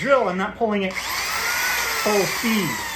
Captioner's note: drill whirring